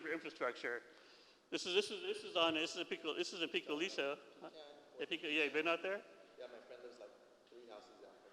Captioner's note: foreign language